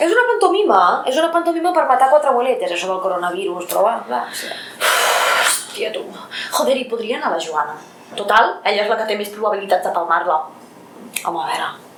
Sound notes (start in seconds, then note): 4.8 puff